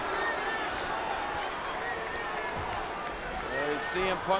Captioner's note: crowd shouts